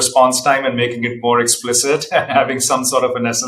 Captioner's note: laughs